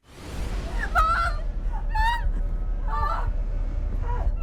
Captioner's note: Sue groans